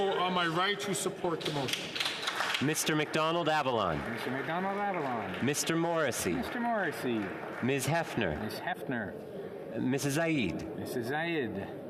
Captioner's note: calling of recorded vote